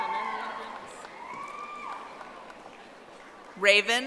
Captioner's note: audience applauding